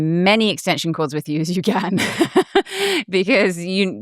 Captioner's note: laughs